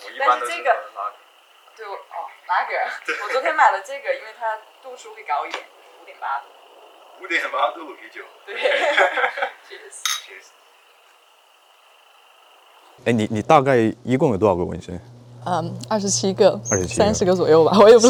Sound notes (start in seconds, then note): 2.9 chuckles; 8.4 laughs